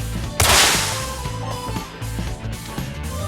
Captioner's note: splash!